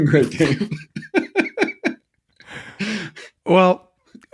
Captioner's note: laughing